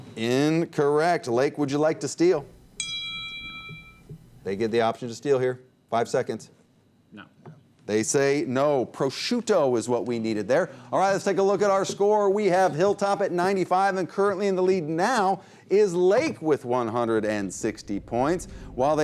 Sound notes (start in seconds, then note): 2.8 bell ding